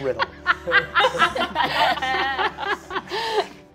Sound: all laughing

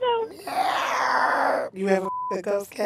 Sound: laughing; yowling; beeps

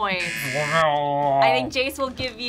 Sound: groans

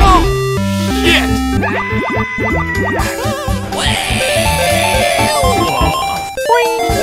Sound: yelling

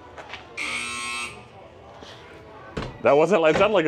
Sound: buzzer blaring

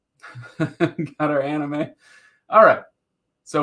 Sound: laughing

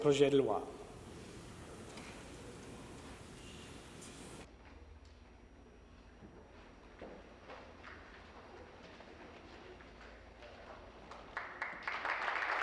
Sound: speaking in French

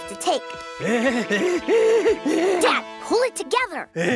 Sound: dad whimpers

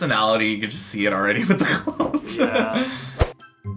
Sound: laughs

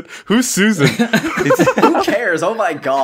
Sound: cuteness laughing uwu

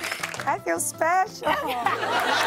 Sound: laughter

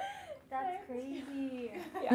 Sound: laughing

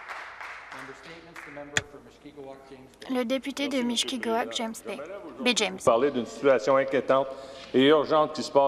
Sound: some Applause

